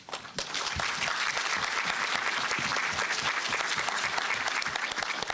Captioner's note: applause